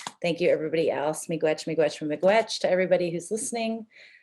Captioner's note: speaking Native language